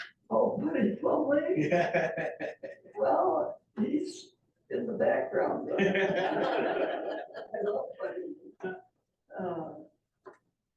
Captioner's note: laughter